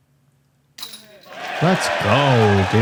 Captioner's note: cheering